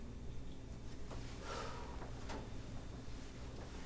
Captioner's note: sigh